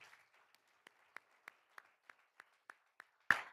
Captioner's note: all applauding